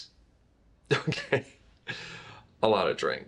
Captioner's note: laughs